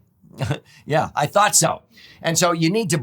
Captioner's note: chuckles